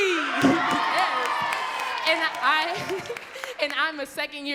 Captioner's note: laughing